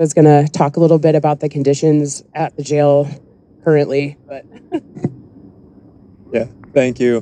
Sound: chuckles

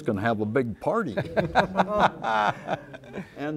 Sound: laughter

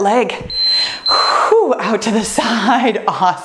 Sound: timer beeps

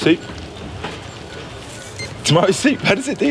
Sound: scanner beeps

